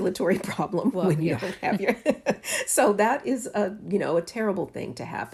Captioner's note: laughter